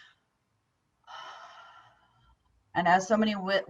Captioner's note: breathing